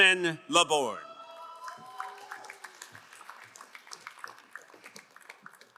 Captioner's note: crowd cheering and applauding